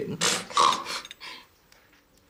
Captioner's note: Lydia snorts